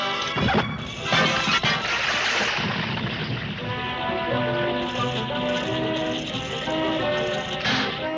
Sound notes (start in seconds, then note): 1.3 glass clattering; 3.7 light dramatic music